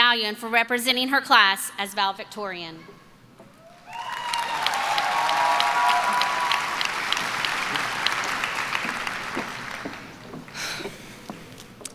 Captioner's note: applause and cheering